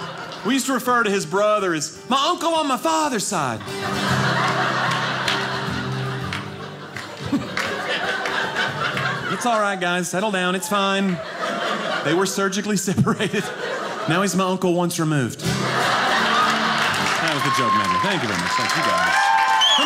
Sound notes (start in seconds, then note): 4.2 audience laughing; 6.0 guitar playing; 15.4 audience laughing; 18.8 audience cheering